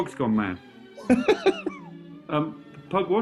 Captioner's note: laughter